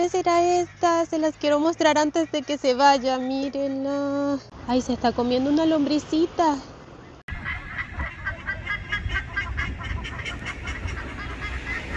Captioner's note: laughs